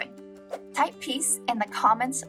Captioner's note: air whooshing